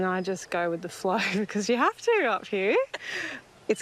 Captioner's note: laughs